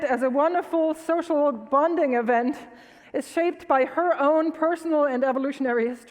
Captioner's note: none